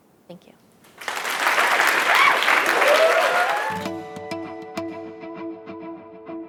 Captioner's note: applause